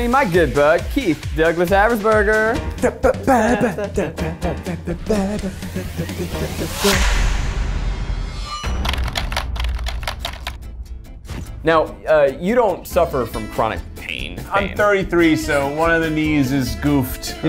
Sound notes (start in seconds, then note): 2.7 both scatting; 6.9 metal clanging, keys clicking